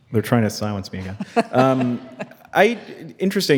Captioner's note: laughing